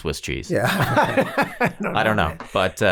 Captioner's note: all laughing